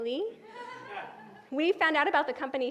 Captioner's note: crowd laughs